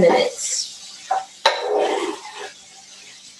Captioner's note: pan sizzling